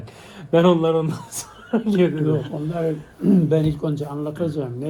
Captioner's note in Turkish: boğazını temizler